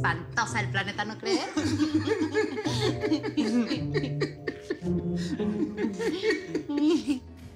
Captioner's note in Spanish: Risas